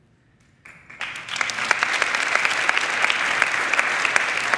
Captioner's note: crowd clapping